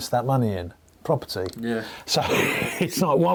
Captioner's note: laughs